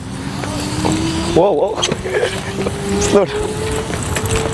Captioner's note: laughs